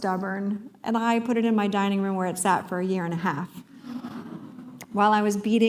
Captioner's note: audience chuckle